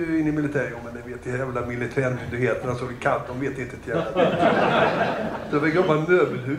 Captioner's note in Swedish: Skratt